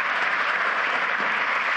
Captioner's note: applause